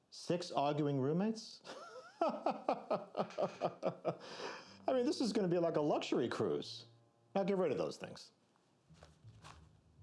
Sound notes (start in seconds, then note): 1.6 laughing